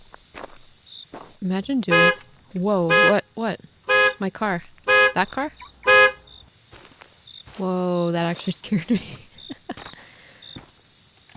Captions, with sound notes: Imagine doing-- [Car alarm, loudly] whoa. What? My car. That car? [Car alarm stops] Whoa. That actually scared me.